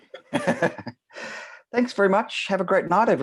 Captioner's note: laughs